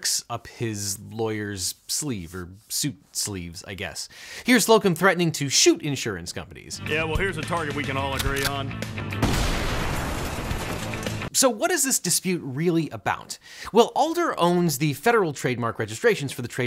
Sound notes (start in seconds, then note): 9.1 gun fires